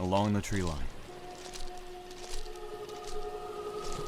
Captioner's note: wail